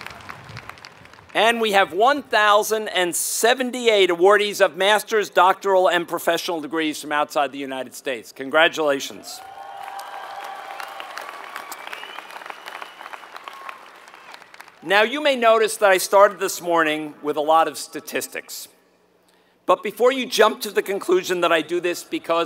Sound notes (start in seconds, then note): 9.4 applause